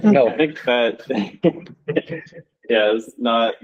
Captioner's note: chuckling